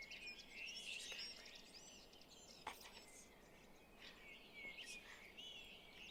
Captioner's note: birds chirping